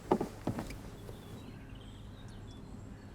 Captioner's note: birds chirping